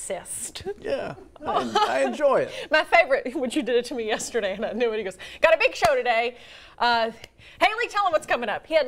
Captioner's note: laughter